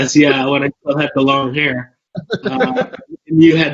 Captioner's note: laughs